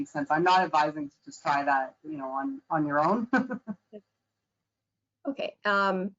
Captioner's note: chuckles